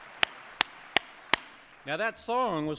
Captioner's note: applause